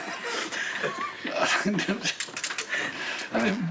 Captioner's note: chuckles